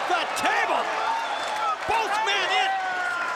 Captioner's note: crowd cheering